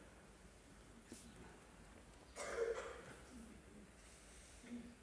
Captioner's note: silence